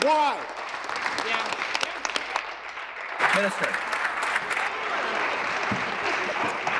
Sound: applause

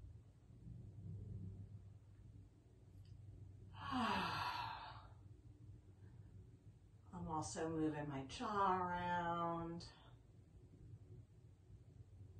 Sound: exhales

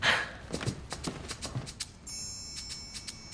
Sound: Brit sighs excitedly; footsteps bounce away; playful percussion music

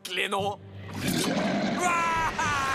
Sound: roar

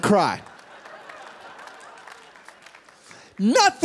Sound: laughter

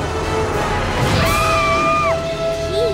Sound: screaming

